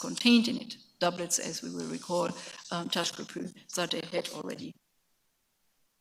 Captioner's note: speaks in a foreign language; sound cutting out